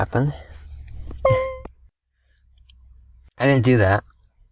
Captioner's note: beeping sound